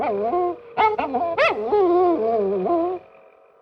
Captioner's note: dog barking